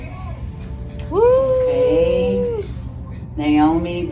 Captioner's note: camera operator cheering